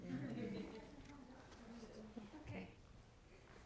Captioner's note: people laughing